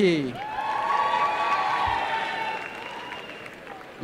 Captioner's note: applause